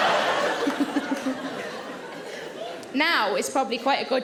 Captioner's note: audience laughing; Sarah laughing